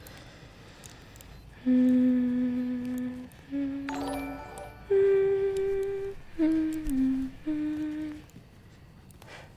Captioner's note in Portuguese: cantarolando